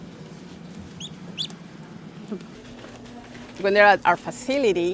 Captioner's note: duck chirps